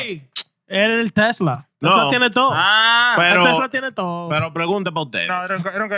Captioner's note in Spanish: Hablando en idioma extranjero